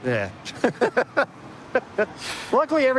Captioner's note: laughter